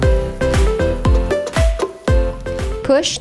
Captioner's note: ladle thud